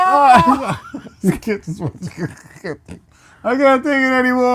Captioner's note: laughing